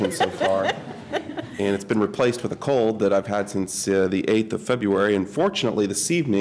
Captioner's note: laughter